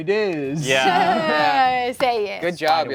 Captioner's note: players chuckle